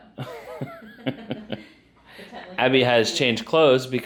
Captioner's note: laughs